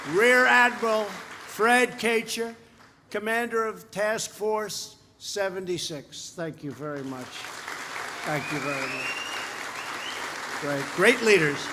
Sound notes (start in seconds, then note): 6.6 applause